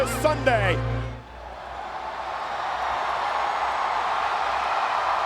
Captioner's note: crowd cheering